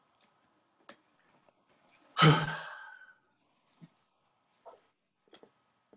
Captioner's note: Julian sighs; silence